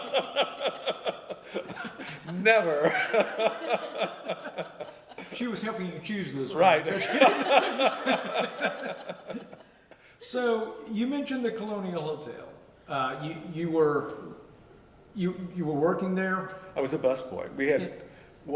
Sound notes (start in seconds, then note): 0.0 laughter; 6.8 laughter